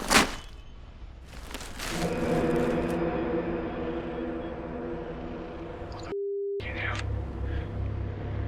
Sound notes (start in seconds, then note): 0.1 zipper whirring; 1.9 dramatic noise